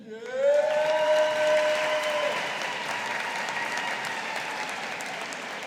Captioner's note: audience applauding